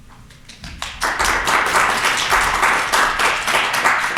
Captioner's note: audience clapping